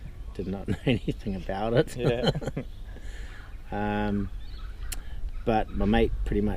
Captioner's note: laughs